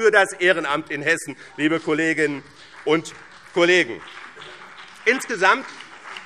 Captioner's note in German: Beifall